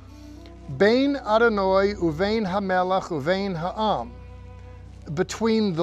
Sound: speaking in Hebrew

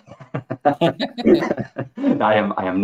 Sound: laughter

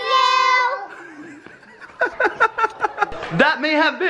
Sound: laughing

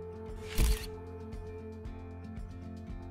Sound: camera shutter clicks

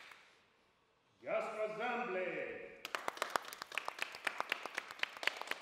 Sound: applause

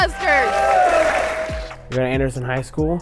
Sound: crowd cheering

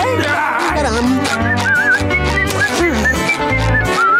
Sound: whistling

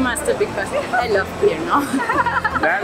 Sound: laughs

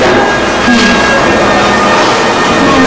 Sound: Raquel chuckles

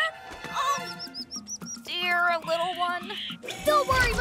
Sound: soft cries

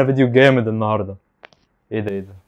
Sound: steps

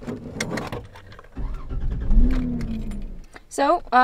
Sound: car starts

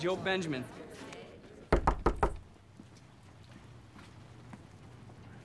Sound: knocking on door

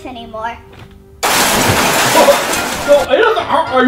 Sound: crashing

